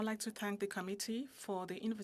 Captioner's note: speaking in French